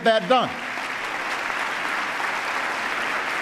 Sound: applause

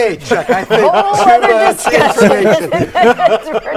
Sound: laughing

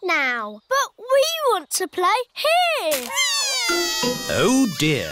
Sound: crying

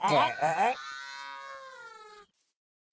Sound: villager choking in unison; cow calling for 911

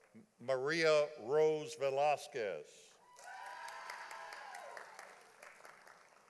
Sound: audience applauding

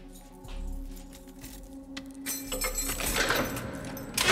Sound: keys jingling

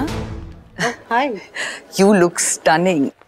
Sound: Sheena laughs

